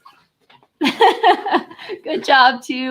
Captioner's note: chuckles